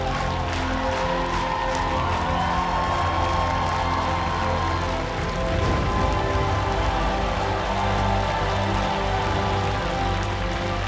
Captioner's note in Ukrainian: оплески